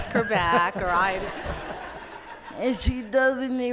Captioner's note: audience laughs